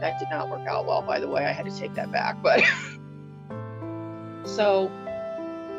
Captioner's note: laughs